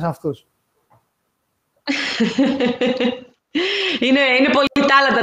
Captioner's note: γέλια